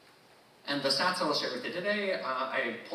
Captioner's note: none